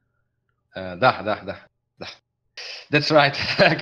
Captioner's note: laughing